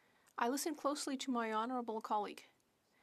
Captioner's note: speaking French